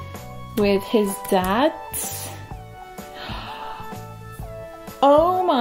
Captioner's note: big gasp